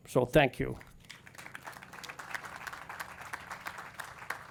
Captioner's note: audience claps